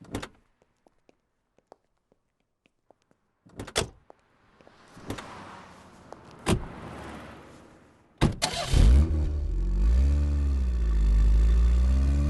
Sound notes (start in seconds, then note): 8.2 car Engine Start